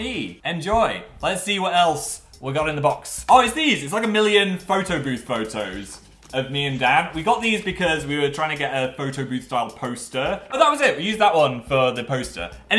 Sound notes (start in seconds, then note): none